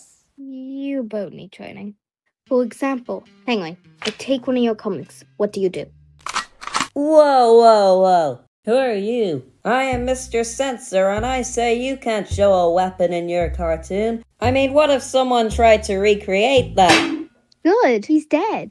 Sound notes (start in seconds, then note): 6.2 gun Reload; 16.6 bonk!